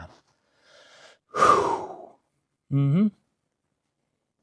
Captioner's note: exhaling